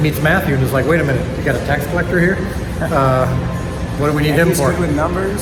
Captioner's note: laughs